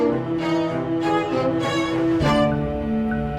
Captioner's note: cars driving